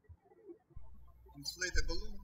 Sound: birds chirping

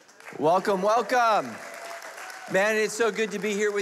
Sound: applauding

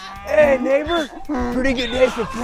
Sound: donkey braying; sheep bleating

